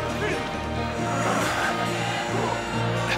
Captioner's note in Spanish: Gemidos